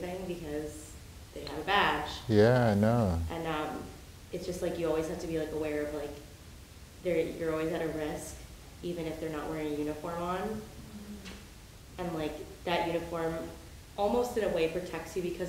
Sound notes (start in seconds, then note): 4.0 woman's Voice